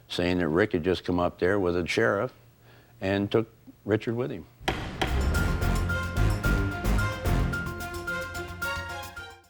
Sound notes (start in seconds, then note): 4.6 gavel thumping; 4.6 dramatic music